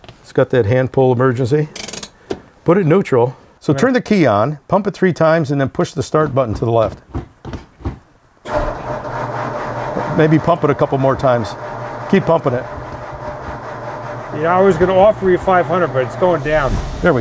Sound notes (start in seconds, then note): 1.7 emergency brake clicking; 8.6 car engine scraping